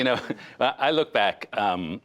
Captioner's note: laughter